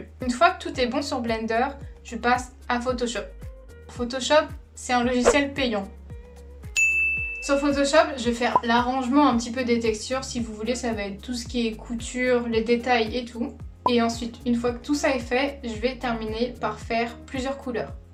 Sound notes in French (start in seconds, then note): 6.7 ding